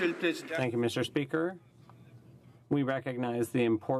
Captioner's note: some Applause